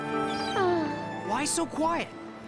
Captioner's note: sigh